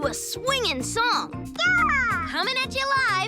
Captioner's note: babbles